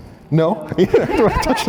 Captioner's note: laughter